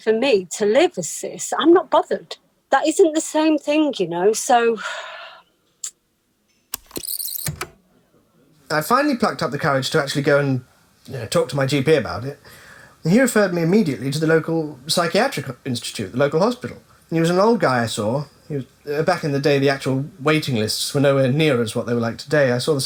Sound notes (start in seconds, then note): 5.8 big sigh; 6.7 the tape whirrs fast forwarding and then plays